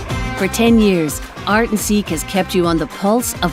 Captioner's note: voiceover